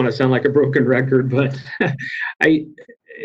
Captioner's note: laughs